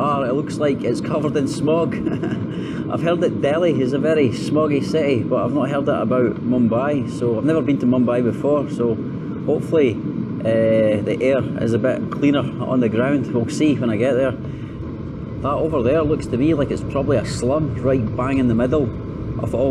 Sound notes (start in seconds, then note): 1.8 laughter